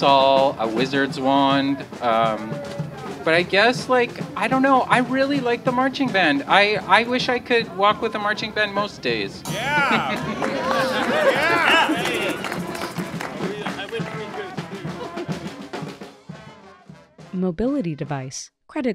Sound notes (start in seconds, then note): 9.4 laughs; 12.9 applause; 14.8 delighted laugh